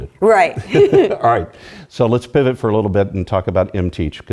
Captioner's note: laugh